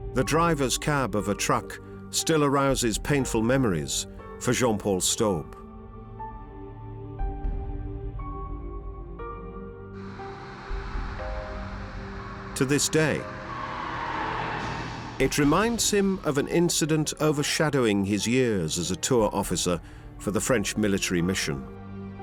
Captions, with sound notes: The driver's cab of a truck still arouses painful memories for Jean-Paul Staub. [engine running] -To this day... -[echoing screech] ...it reminds him of an incident overshadowing his years as a tour officer for the French military mission.